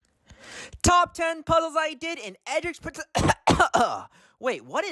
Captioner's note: cough